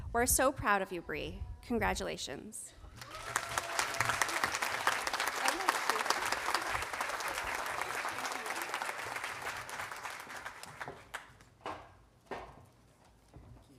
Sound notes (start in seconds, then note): 2.9 audience applauding and cheering